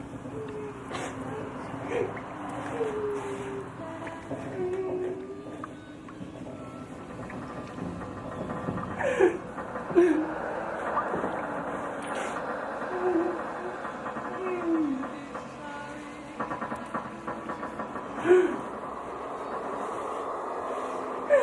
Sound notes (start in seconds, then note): 0.0 Pat whimpering; 0.2 gentle music; 8.9 Pat gasping; 9.7 distant gentle music